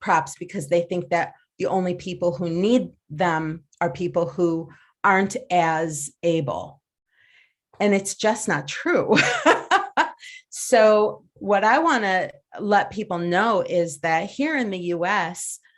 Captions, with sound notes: because they think that the only people who need them are people who aren't as able, and it's just not true. (laughs) So what I wanna let people know is that here in the U.S.,